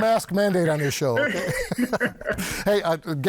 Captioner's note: laughing